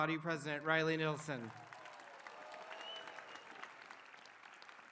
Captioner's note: applause